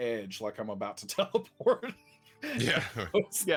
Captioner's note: laughs